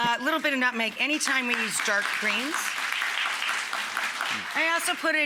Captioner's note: audience applauding